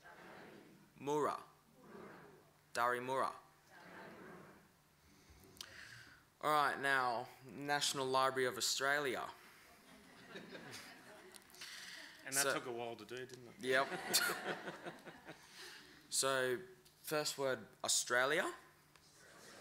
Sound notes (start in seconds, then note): 9.9 laughter; 13.7 laughter